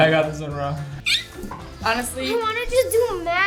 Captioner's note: squeaks